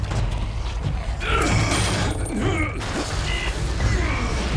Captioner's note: grunting